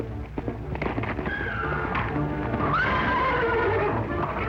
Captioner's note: whinnying